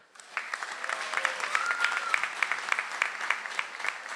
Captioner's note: audience applauds